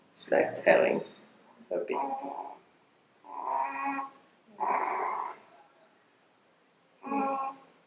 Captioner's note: baby talks